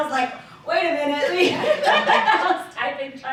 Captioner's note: laughter